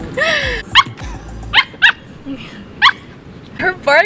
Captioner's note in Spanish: Gali ladrando